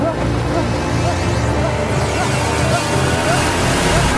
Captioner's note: engine roaring